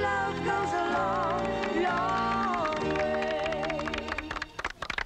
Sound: audience applauding

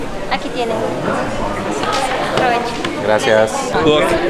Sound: waitress speaks Spanish

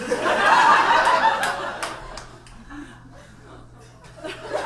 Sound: audience laughs

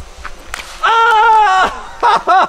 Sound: phone crashes

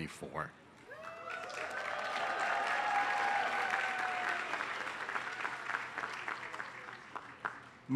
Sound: applause

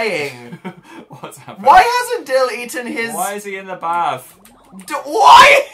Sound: chuckles

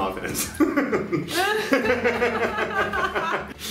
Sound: laughing

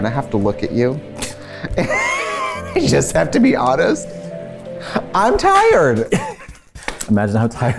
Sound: laughs

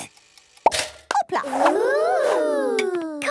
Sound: toaster ticking; pops

